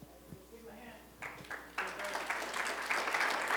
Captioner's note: applause